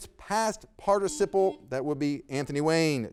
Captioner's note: buzzer beeping